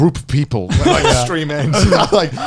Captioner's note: laughs